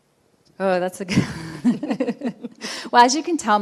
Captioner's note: laughing